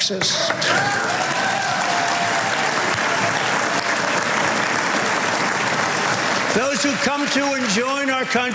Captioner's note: applause